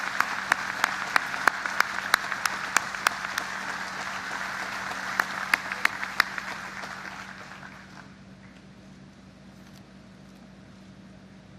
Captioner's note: applause